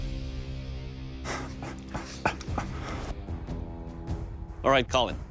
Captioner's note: laughs